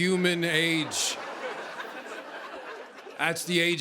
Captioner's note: laughter